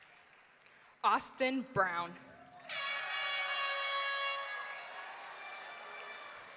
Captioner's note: audience cheering